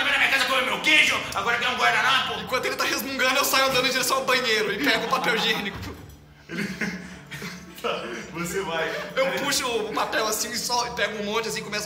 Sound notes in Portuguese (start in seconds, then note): 4.7 Risadas; 4.7 Risos; 8.1 Risadas